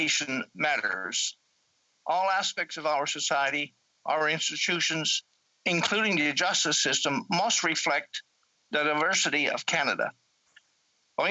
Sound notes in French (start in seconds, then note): 0.0 voix de l'interprète